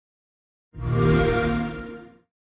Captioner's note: xbox sound